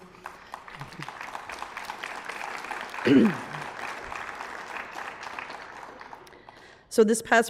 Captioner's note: applause